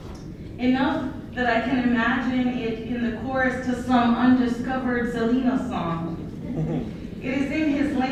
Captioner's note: laughter